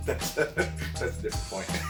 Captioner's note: laughing